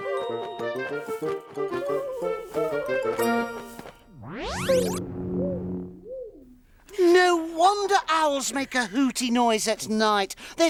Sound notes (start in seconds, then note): 0.1 upbeat music; 4.2 soft zap